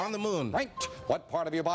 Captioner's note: beeping